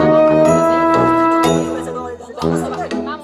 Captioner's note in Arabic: جرس